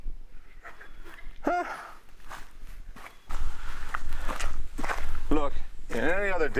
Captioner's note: footsteps pattering